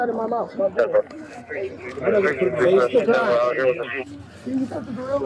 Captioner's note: radio chatter